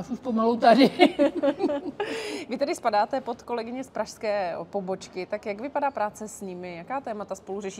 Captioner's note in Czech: smích